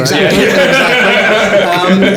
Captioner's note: all laughing